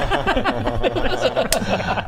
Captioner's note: laughs